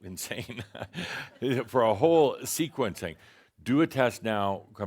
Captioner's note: chuckles